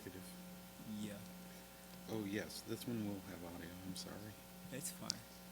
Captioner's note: talking quietly about setup